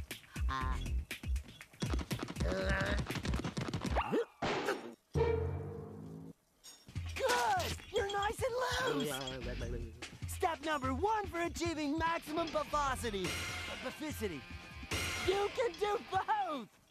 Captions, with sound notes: I... [grunting] GOOD. YOU'RE NICE AND LOOSE. [gibbering] STEP NUMBER ONE FOR ACHIEVING MAXIMUM BUFFOSITY-- BUFFICITY, YOU CAN DO BOTH.